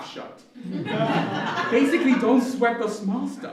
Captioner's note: laughter